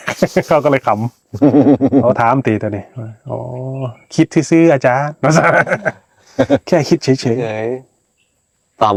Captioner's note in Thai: เสียงหัวเราะ